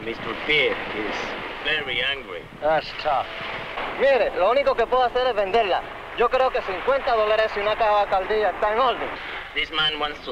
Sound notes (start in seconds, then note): 2.7 man speaking in Spanish